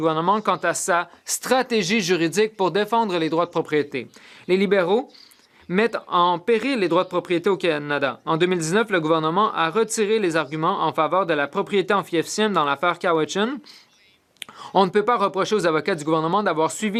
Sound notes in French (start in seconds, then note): 2.1 voix de l'interprète